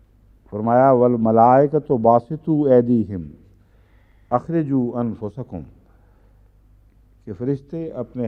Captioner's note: Arabic